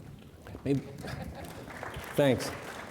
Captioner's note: audience clapping